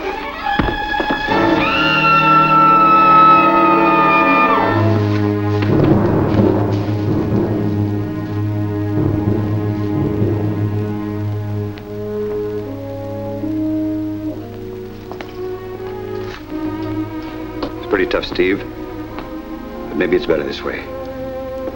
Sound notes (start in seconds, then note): 0.8 scream